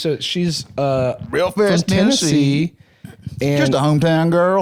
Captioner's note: southern accent